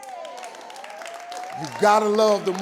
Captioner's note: audience clapping